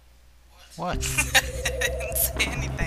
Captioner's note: laughter